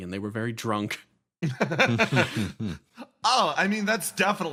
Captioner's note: laughs